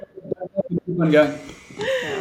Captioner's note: notification sound: penguin scurrying on floor